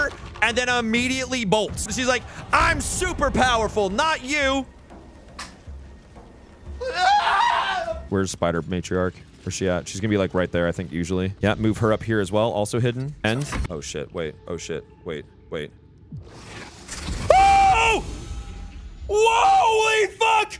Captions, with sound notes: and then immediately bolts. She's like, "I'm super powerful, not you!" [screaming] Where's Spider Matriarch? Where's she at? She's gonna be like right there, I think, usually. Yeah, move her up here as well. Also hidden. End. Oh shit, wait. Oh shit. Wait. Wait. [screaming] WOAHLY FUCK!